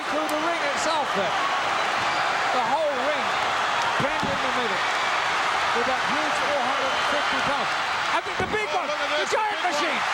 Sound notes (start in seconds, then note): 5.7 audience cheering; 5.7 speaks faintly